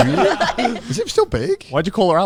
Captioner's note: everyone laughing